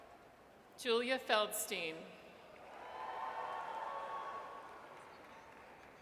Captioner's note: audience cheers